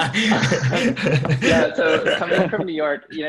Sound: laugh

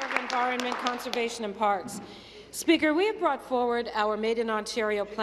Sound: applause

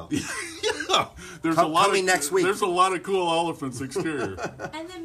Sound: laughs

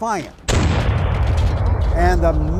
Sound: cannons blasting

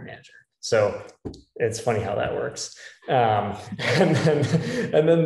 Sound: laugh

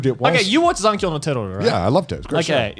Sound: murmurs

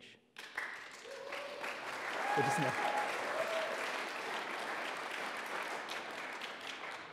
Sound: audience applauding

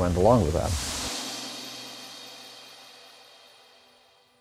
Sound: swoosh

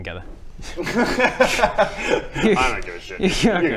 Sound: laughs

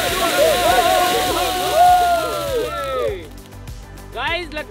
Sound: flashy Crackling sound; shouting with joy

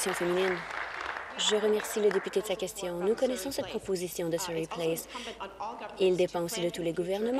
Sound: applause

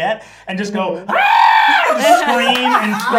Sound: screams

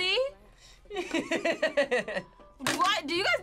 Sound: laughs

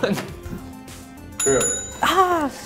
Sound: bell rings; voiceover

